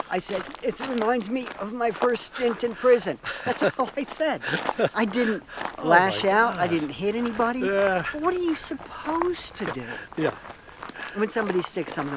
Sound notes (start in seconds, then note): 2.4 laughs